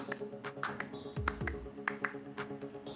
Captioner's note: slow, uneven clapping